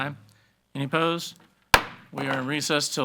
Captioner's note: gavel banging